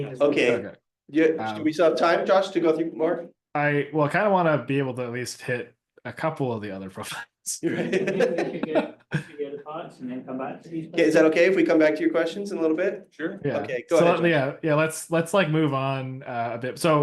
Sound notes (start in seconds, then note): 7.6 laughing